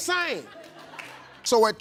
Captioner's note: audience laughs